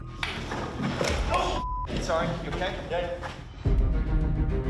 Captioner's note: 9roans